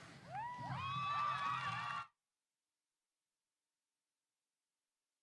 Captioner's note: audience applause